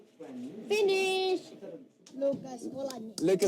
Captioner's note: foreign language